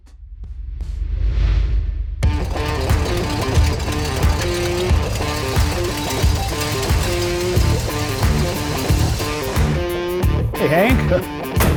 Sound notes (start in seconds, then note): 0.2 upbeat music; 2.3 car engine revving; 2.4 upbeat music; 11.6 laughs